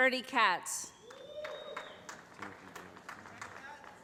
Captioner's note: cheering